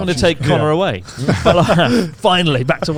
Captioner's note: laughs